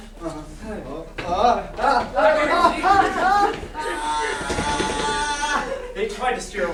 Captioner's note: sailors yelling